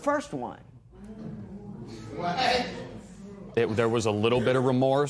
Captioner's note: spectators murmur